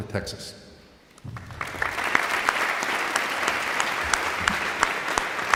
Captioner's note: audience applauding